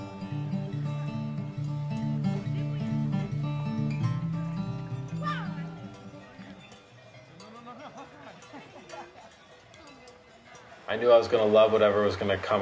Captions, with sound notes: (kids talking and laughing) I knew I was gonna love whatever was gonna come